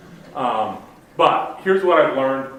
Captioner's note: audience laughs